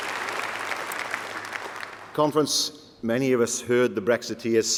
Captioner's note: applause